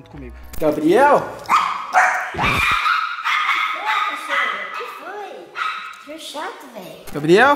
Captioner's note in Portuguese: Cachorro latindo